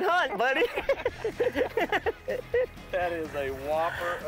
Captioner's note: laughing